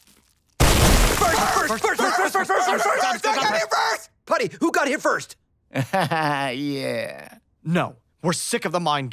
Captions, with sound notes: [yelling "first!"] Putty, who got here first? [chuckles] Yeah. No, we're sick of the mind games.